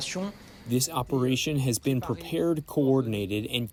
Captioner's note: through translator